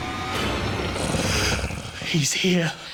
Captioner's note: tense music; monster grunting